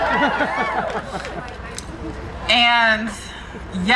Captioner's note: crowd cheering